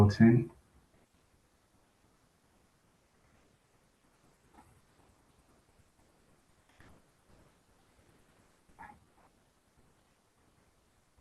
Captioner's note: pause